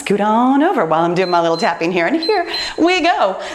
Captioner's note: timer beeps